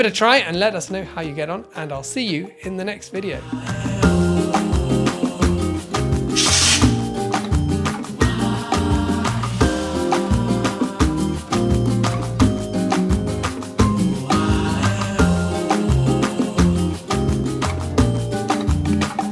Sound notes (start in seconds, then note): 4.4 bossa nova music; 6.4 logo whooshes; 9.9 bossa nova music continues